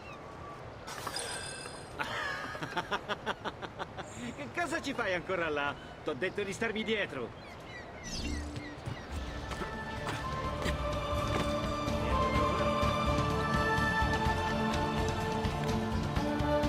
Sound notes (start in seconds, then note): 2.0 laughs